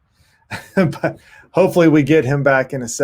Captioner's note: chuckles